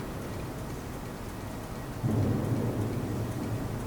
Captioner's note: none